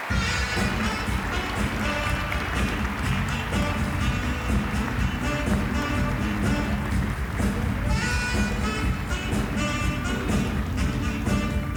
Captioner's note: applause; upbeat jazz music